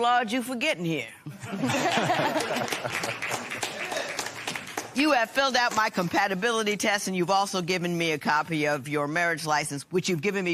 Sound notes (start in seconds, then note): 1.3 laughter; 2.0 applause